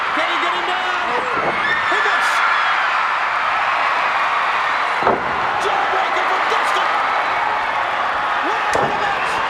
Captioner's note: applause